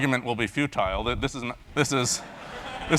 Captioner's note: laugh